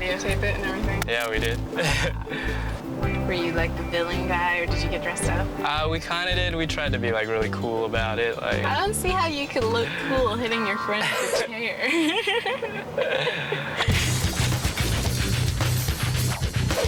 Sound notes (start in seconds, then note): 1.7 laughing; 12.1 laughing; 14.0 rock music